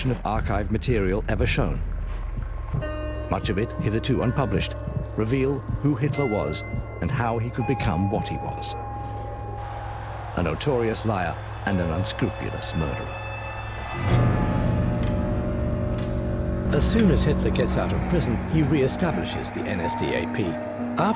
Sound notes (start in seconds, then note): 14.1 sustained gonging